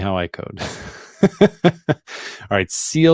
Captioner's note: chuckles